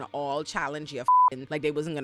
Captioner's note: beep